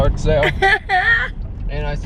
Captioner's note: chuckling